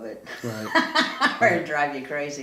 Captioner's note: laughs